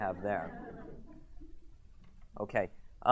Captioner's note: audience chuckles